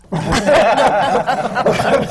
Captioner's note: laughter